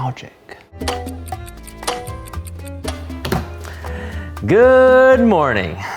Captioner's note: clock ticking